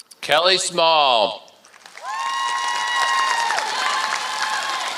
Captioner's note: applause